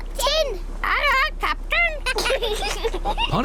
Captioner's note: children giggle